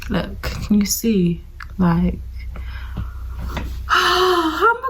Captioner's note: sighs heavily